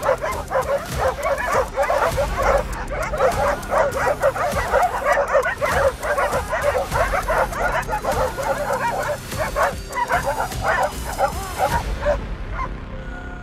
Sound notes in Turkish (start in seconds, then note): 9.3 Havlama sesleri ve tansiyon müziği sesi